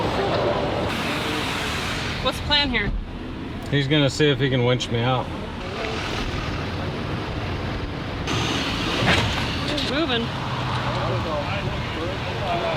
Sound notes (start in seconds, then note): 1.4 car engine roaring